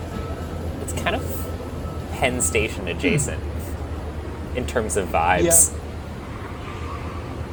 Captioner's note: concurring noises